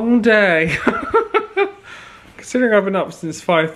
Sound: laughs

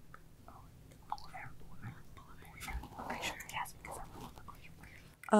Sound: team whispering

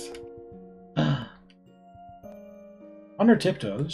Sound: gasps

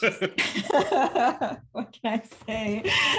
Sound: laughing

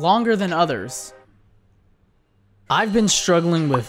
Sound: awkward silence

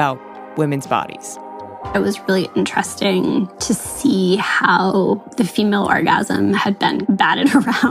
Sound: laughingly

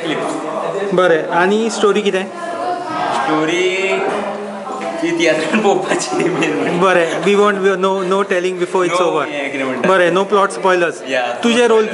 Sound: laughs

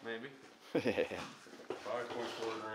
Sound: chuckles

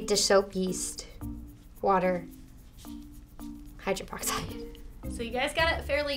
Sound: laughs

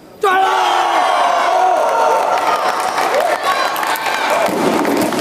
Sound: applause

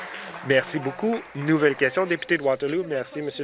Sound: applause

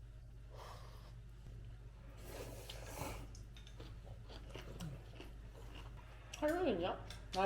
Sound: eating aggressively

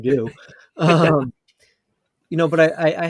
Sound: laugh

